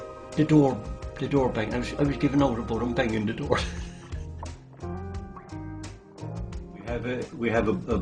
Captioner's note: laughs